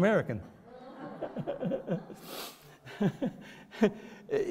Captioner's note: laughs